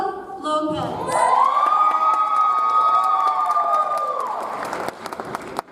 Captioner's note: audience applauds